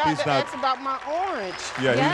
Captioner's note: applause